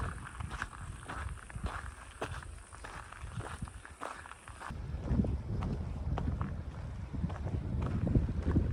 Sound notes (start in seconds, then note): 0.0 foot steps